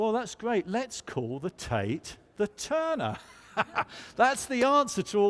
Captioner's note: laughs